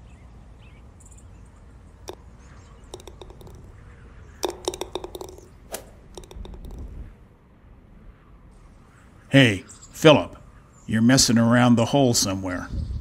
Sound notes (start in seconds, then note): 4.4 Golf hits